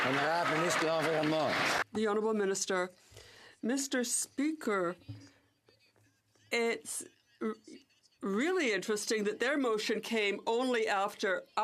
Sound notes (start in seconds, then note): 2.1 some Applause